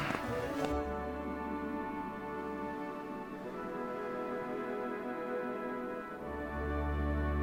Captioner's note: szum wiatru, muzyka cichnie